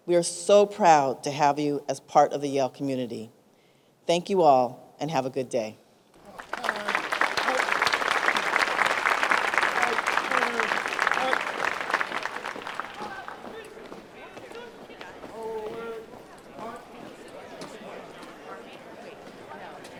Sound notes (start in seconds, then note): 6.5 crowd applauds; 13.8 crowd chatting